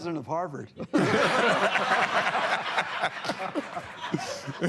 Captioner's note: laughter